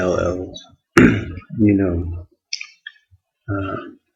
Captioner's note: clears throat